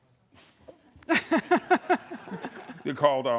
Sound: laughter

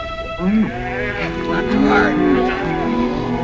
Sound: cows mooing

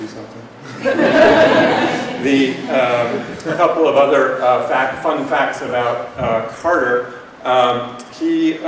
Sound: laughter

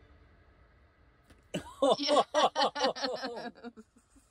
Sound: laughs in celebration

